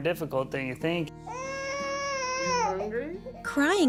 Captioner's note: baby crying